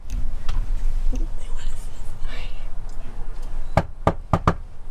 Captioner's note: Allison whispers; hand knocks